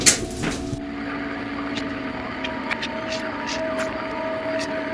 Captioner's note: screens hissing